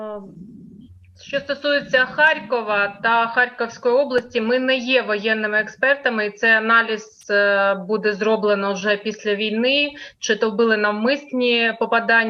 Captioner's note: foreign Language